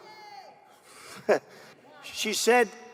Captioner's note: laughing; woman shouting